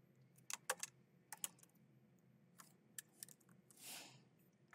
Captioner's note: keyboard clacking